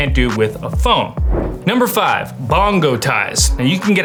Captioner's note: air whooshing